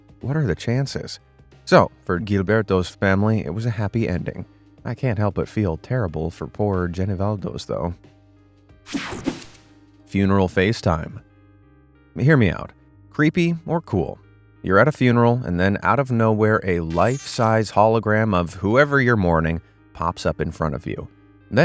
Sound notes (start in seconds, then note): 8.9 graphic whooshing